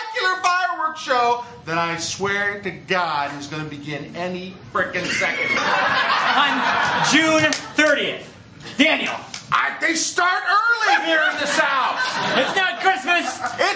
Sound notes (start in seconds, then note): 5.0 laughter